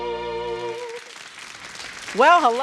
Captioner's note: audience applauding